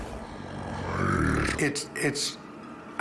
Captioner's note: snarling